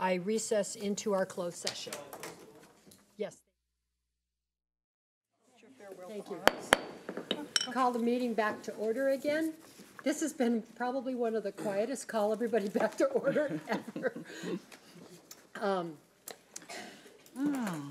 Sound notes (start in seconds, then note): 13.2 laughs